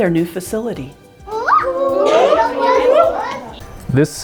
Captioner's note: children play